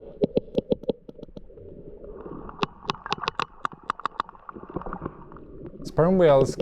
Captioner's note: whale clicking